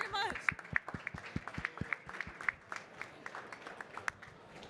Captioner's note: audience clapping